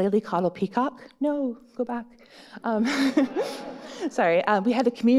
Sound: laughs

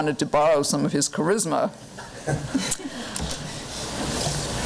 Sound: light laughter

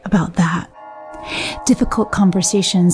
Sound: bell chiming

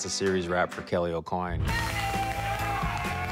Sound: cheers, applause

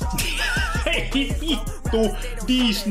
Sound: laughs

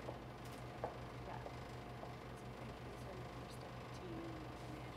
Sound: footsteps clicking

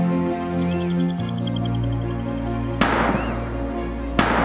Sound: birds fluttering; gun shots

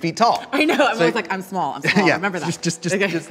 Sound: laughs

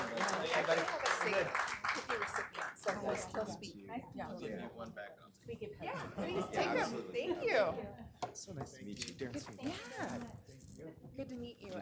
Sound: applause

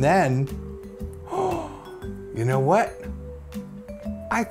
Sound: gasp

